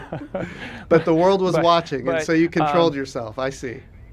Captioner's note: laughr